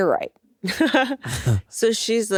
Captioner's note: Atsuko laughs